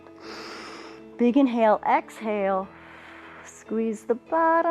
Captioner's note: inhales; exhales